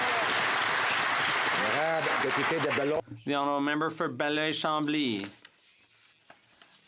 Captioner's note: some Applause